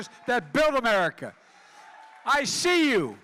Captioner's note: applause